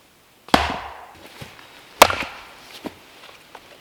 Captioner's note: chopping